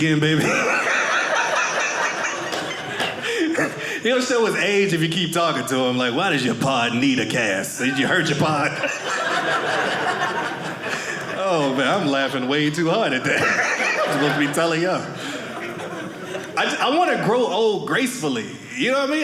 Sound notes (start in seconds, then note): 0.3 audience laughing; 8.6 audience laughing